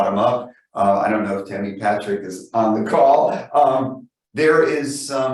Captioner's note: laughs